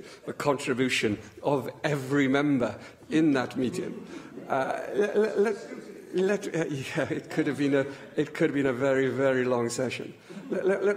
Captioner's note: laughter